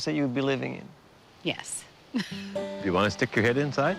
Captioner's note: chuckles